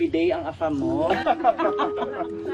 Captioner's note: laughing